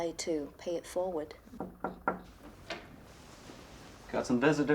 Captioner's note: nurse knocking